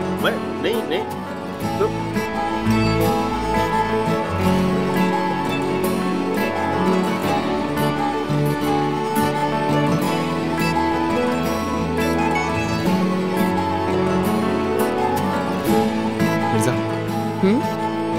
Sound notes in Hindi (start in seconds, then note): none